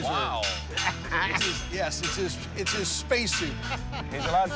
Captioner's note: laughter